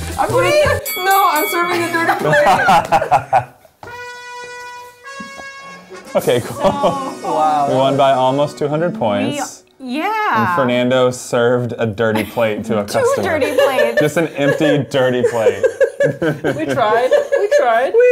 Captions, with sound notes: - Wait! - No, I'm serving a dirty plate! (bell dings) (laughing) (trumpet music) - Okay, cool, we won by almost 200 points. - We, yeah. - And Fernando served a dirty plate to a customer. - Two dirty plates. (laughs) - Just an empty, dirty plate. (laughs) - We tried, we tried.